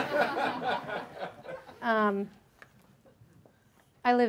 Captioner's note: audience laughs